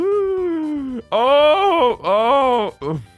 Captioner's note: ooooooooooooh